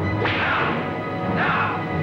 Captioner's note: whip cracks